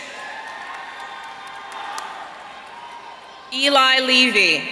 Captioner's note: audience cheering